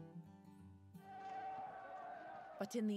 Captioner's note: crowd yelling